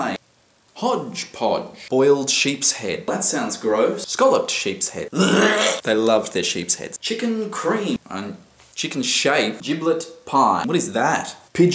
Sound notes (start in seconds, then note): 5.1 gags